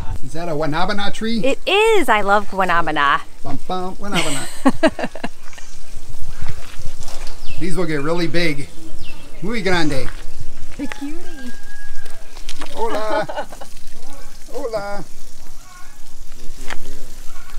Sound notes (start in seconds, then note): 4.1 laughs; 15.6 laughs